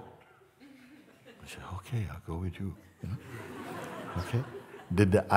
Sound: laughter

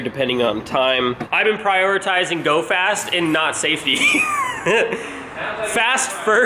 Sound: laughs

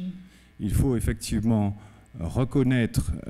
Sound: speaking french

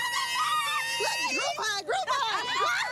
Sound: screaming

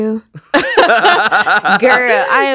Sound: both laugh

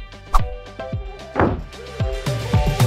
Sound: slam!

